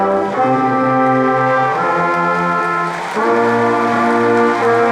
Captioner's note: crowd applauding